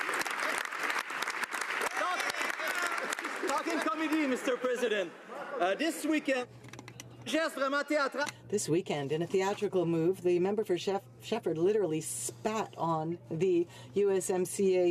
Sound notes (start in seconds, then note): 2.4 some Applause; 11.3 speaking French